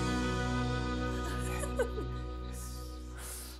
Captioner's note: both giggle